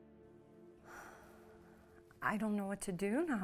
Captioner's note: Julie sighs